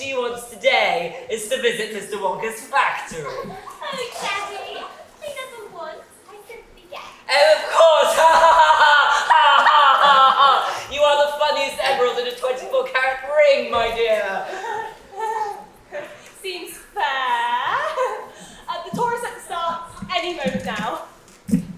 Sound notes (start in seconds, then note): 7.6 laughs